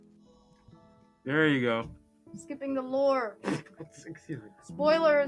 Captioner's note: laughing